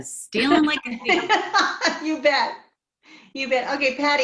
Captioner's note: laughs